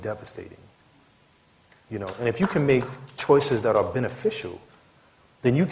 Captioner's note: applause